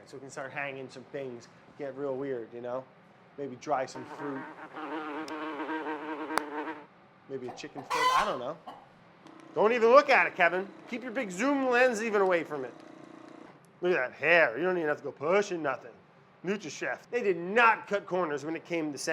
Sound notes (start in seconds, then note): 4.5 fly buzzes; 4.8 claps hands